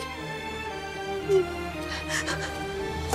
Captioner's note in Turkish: Ağlıyor